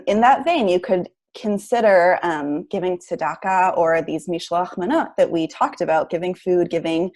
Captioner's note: Hebrew